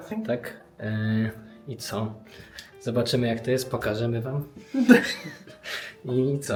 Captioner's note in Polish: śmiech